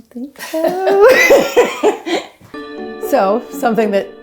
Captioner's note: laughing